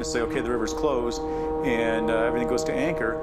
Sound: fog horn

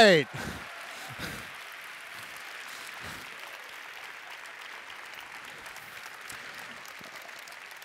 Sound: applause

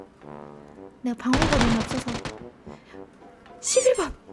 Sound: gun sound

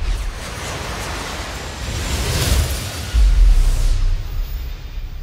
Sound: flights whooshing

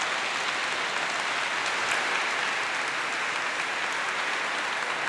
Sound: applause

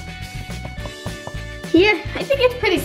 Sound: tapping

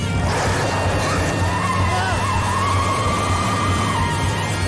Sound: tires squealing

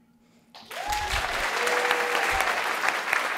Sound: cheering and applause

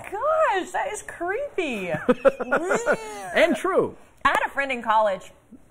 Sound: laughter

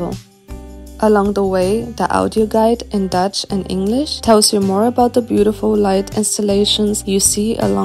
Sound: in Dutch & English

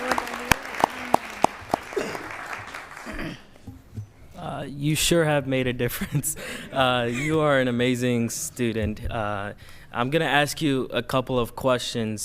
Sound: applause

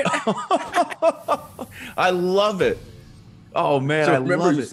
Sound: laugh

